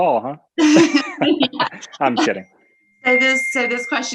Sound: laughs

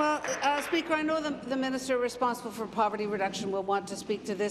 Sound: applause

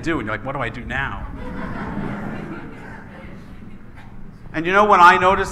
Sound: laughing

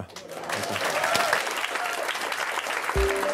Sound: audience applauds; cheerful music

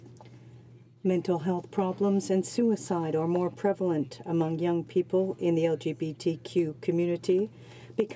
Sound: speaking French

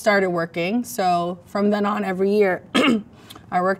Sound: clears throat

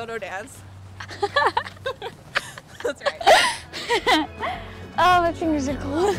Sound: chuckling

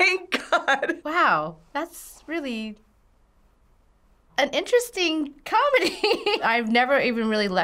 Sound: laughs; laughs

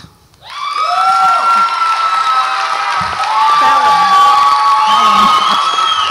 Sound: audience applauds and cheers

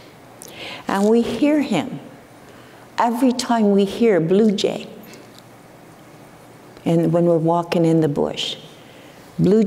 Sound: none

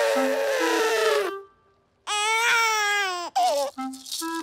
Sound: cries; trumpets

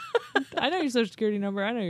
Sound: chuckles

